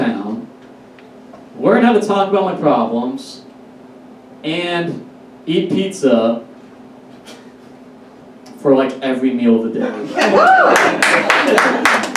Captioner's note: audience Applauds